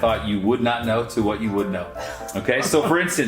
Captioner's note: laughs